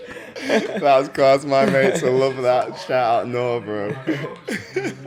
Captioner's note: laughs; laughs